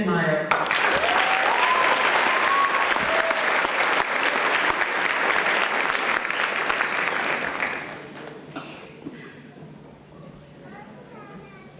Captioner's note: applause